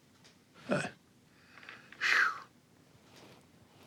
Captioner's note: sighing